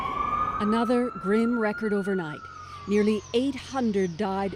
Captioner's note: siren